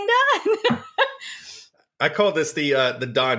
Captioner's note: laughs